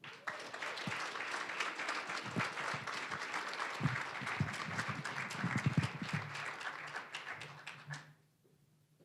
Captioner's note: applause